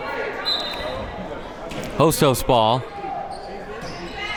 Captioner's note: whistle blows